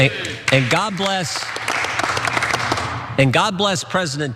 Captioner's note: applause